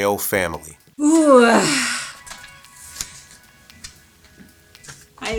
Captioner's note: groans